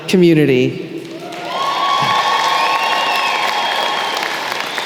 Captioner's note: applause